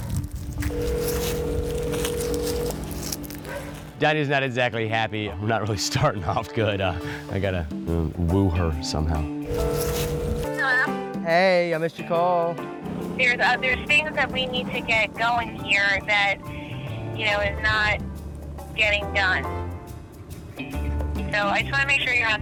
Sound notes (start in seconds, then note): 0.6 phone ringing; 9.4 phone ringing